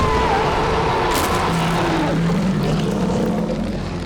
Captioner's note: Glenda screaming; shark roaring; teeth crunching; ominous music